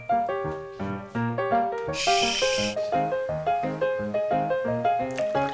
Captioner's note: shhh